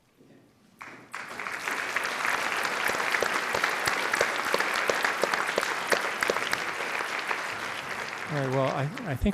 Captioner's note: applause